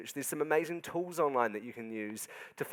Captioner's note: none